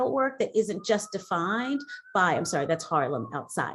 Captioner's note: sirens in background